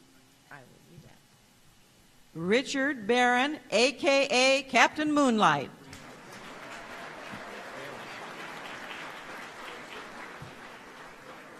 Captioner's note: applause